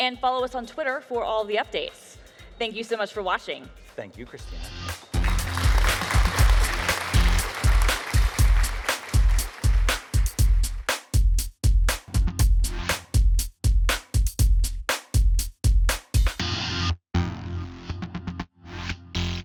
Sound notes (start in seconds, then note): 4.8 audience claps; 9.1 upbeat electronic music